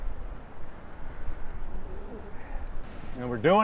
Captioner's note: wind blowing